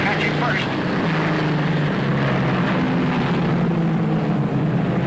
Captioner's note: engines roaring